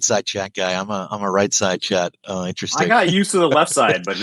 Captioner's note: laughs